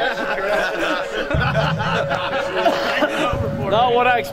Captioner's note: more laughter